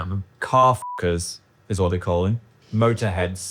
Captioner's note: beep